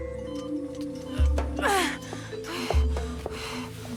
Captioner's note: grunting; heavy breathing